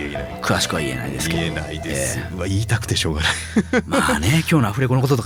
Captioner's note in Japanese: 笑い